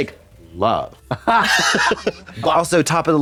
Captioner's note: blonde Women chortle